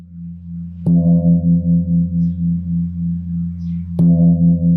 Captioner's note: gong sounds